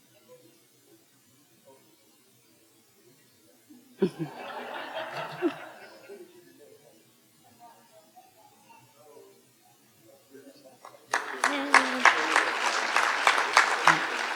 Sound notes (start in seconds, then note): 4.0 audience laughing; 10.8 audience applauding